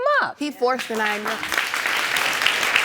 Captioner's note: applauding